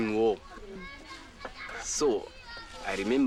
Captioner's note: kids playing